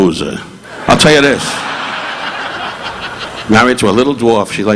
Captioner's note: audience laughing